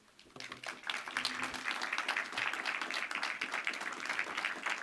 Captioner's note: audience applauding